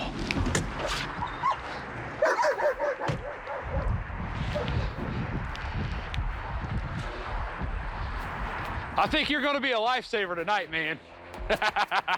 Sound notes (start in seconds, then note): 2.2 dog barking; 11.4 laughs